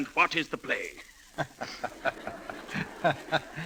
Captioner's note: laughter